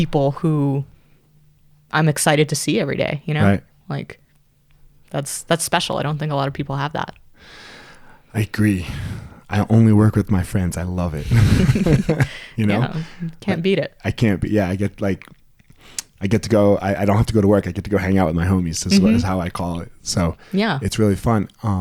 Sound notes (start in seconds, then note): 11.2 both laugh